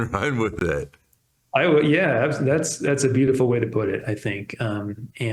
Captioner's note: laughs